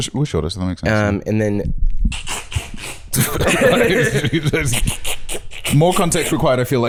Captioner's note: imitating duct tape ripping